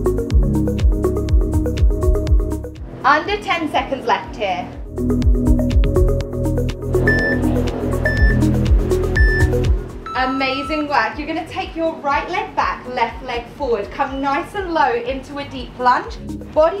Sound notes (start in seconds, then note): 7.0 timer beeping